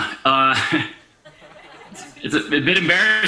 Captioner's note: chuckles